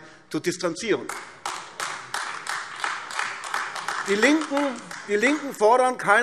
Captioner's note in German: Beifall AfD